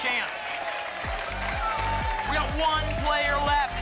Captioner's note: applause and cheering